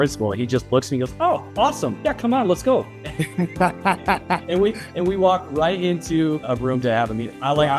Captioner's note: laughing